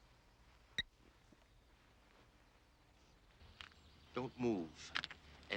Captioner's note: phone beeps